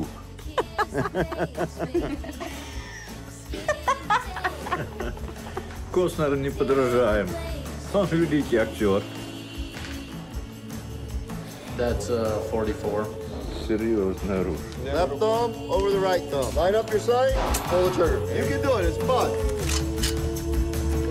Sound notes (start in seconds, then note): 0.3 laughing